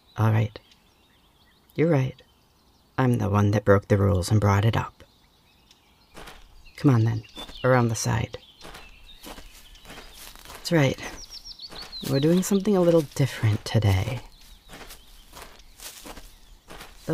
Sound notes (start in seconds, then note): 8.8 two sets of footsteps